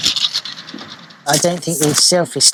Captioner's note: sound of tools and banging around